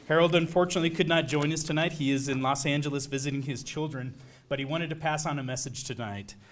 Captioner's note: none